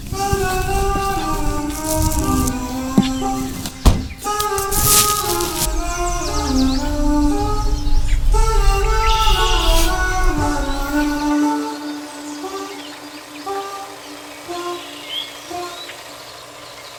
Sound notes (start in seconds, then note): 0.2 upbeat music; 6.9 car engine growling